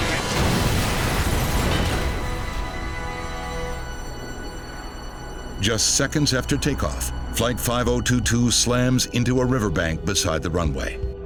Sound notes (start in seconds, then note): 0.0 plane crashes